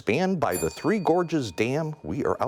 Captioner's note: timer dings